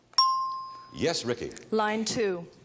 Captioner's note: bell dinging